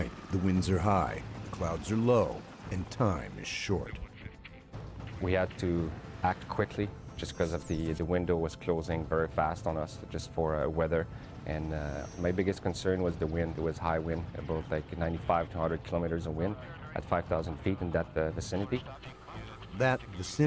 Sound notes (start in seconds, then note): 10.0 voiceover